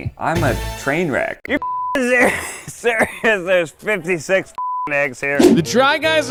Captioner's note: beep